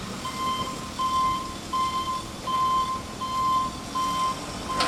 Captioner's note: telehandler beeping